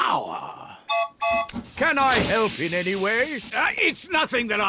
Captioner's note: toots horn